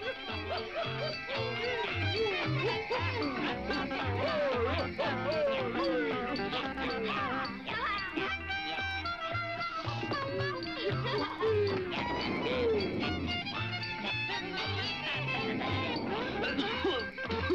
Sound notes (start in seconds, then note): 10.4 doll laughs; 16.0 Dummy coughs